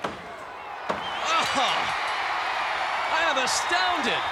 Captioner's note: bell dings